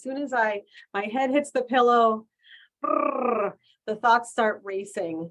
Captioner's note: raspberry sound